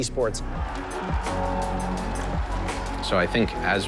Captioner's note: crowd cheering